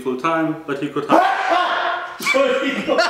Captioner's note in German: ahhh choo